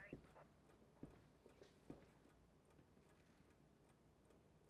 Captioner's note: clock ticking